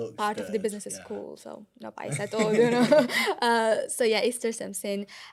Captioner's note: laughter